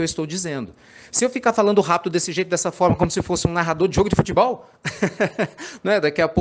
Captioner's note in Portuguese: risadas